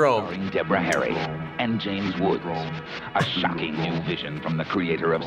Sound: voice-over

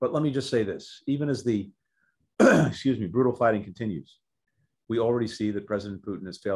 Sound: clears throat

